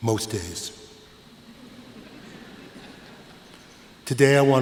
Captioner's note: laughter